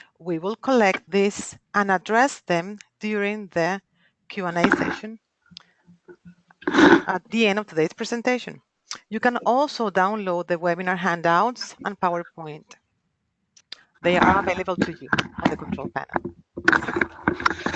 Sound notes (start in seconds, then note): 6.6 loud scratching; 14.0 loud scratching